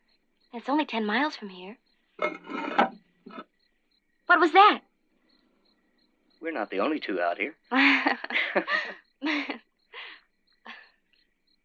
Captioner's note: laughter